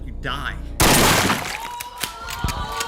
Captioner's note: gunshot